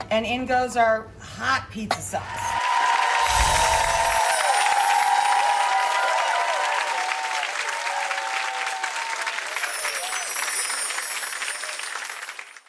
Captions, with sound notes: And, in goes our hot pizza sauce. (crowd cheers and applauds) (magical chime sound) (crowd cheers and applauds) (magical chime sound)